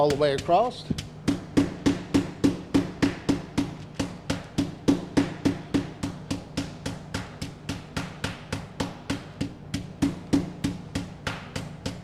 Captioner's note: constant pounding